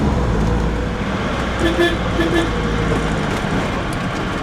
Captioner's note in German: Hupen